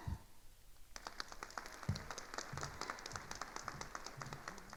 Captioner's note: attendees applauding